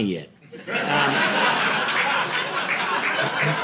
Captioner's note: audience laughing